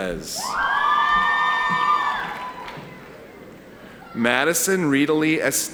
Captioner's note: audience cheering